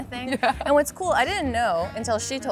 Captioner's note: laughs